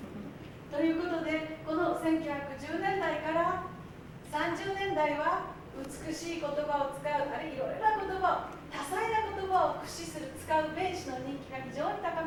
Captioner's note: speaking Japanes